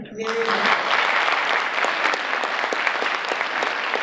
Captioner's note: audience applauding